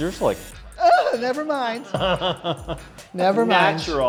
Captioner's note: laughs